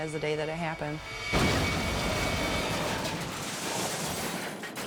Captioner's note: van crashes